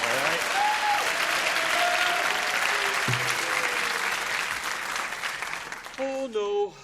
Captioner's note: applause